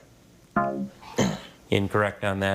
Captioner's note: scoreboard buzzes